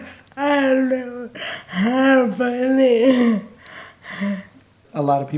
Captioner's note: laughing